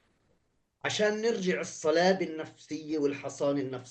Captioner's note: speaking arabic